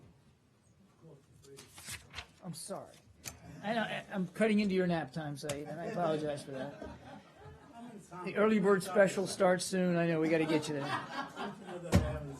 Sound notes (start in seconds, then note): 5.7 laughter